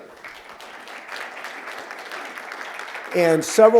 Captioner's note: applause